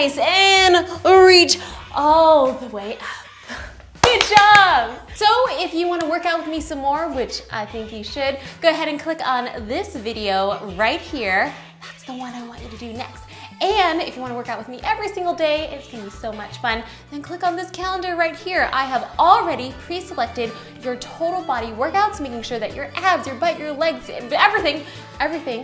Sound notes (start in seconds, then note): 4.0 claps